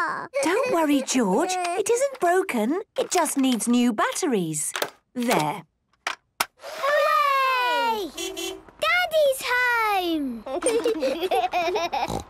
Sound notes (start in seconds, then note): 7.7 distant beeping